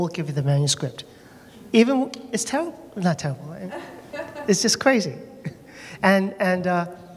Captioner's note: laughter